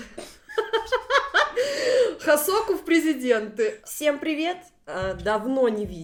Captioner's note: laughter